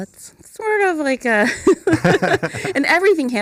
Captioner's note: laughter